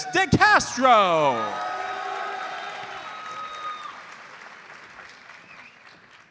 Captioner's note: audience cheers and applauds